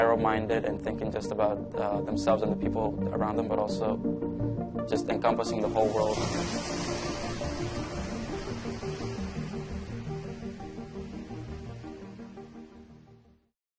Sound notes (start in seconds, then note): 11.1 waves rushing